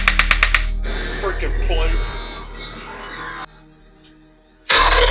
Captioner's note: screaming